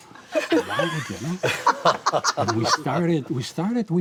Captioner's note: all laugh